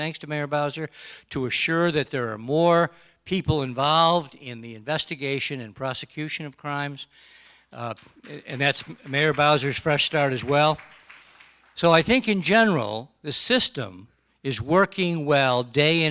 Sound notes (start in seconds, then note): 8.4 applause